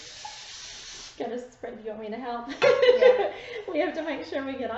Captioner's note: laughing